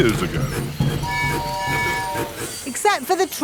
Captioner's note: train tooting